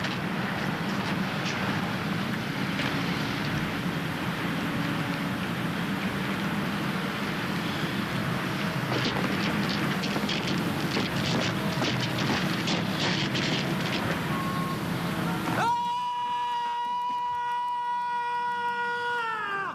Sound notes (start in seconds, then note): 15.9 yelling